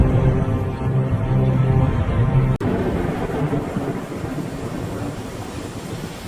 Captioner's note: waves rumbling and splashing